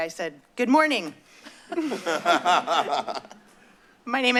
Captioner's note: laughter